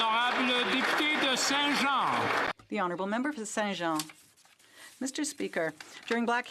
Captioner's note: some Applause